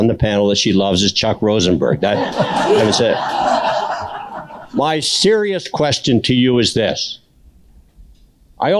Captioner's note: laughter